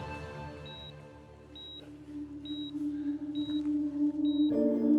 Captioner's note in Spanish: sonido de la telemetría